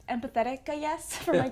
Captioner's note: laugh